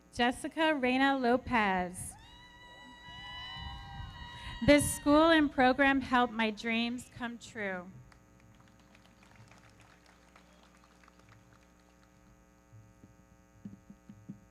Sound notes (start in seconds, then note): 2.2 audience cheering; 8.3 everybody clapping; 8.8 audience cheering